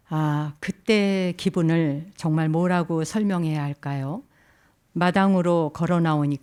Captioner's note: speaking in Korean